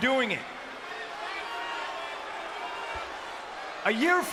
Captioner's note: crowd boos and shouts indistinctly